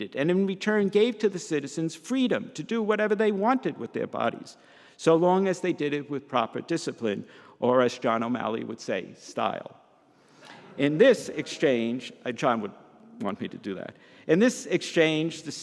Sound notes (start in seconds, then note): 10.3 audience laughs